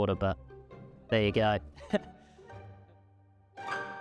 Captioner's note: laughing